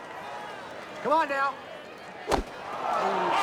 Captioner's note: ball pops in mitt; crowd groans